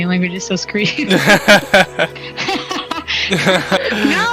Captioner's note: both laughing